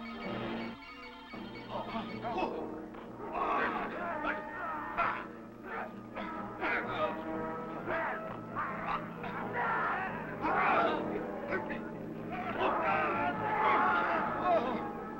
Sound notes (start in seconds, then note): 1.8 tense orchestral music; 3.1 men groaning